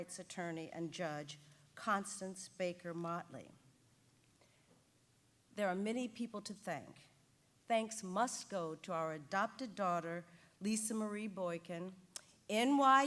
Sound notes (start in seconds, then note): none